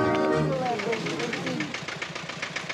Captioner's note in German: Motorentuckern